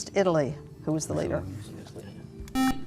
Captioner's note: buzzer